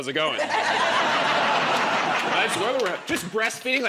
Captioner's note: laughter